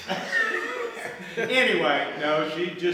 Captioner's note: group laughing